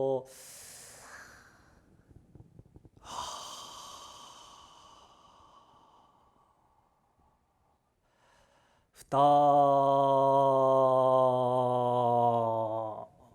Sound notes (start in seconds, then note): 0.0 japanese; 0.3 exhaling; 0.3 inhaling; 8.6 japanese